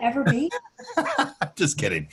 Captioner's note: laughing